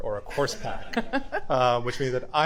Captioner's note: attendees laughing